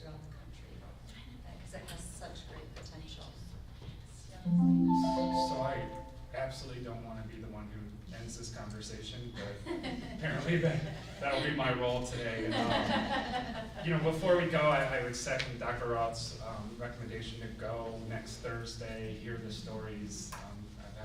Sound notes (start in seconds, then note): 4.4 computer beeps; 12.3 laughs